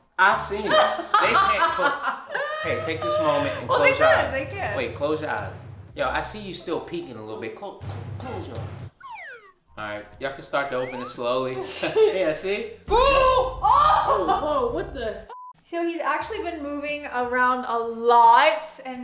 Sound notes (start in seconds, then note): 0.6 laughs; 13.0 groans; 15.3 beep